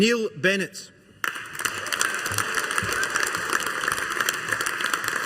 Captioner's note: audience applauding